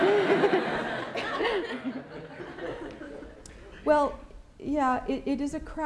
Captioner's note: laughter